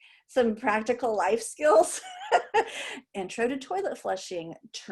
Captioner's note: laughter